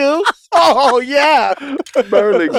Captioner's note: group laughs